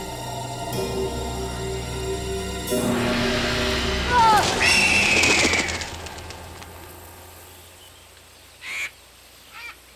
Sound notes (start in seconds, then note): 4.1 Ned screams; 4.1 vulture screams